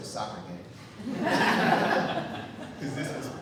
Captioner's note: audience laughing